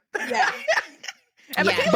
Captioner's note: laughing